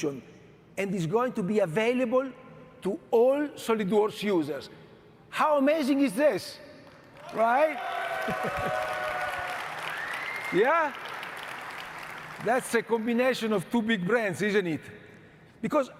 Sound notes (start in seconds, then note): 8.2 chuckles; 8.9 audience cheering and cheering